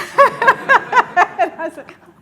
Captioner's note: audience laughs